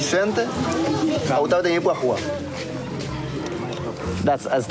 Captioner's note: speaking In Foreign Language